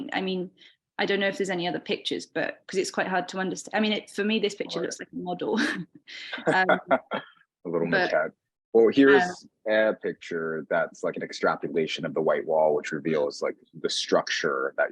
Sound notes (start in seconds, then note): 6.2 laughing